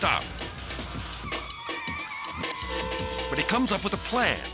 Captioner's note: tires screeching; horns honking